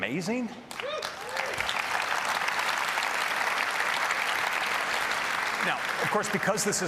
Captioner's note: applause